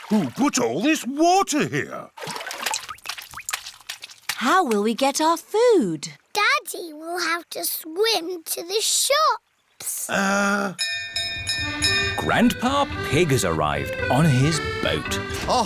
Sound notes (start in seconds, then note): 10.8 bell rings